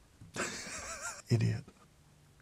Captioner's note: laughs